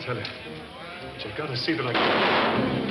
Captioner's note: gun fires; dramatic orchestral music; bar patrons chattering